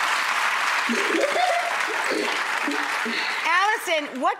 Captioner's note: audience applause; laughs